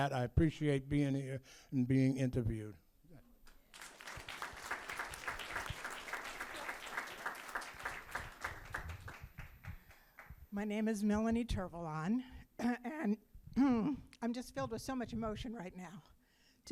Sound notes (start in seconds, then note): 3.7 audience applauding